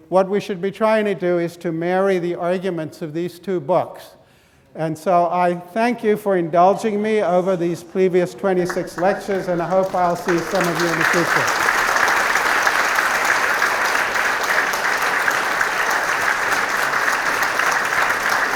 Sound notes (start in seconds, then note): 11.6 students clapping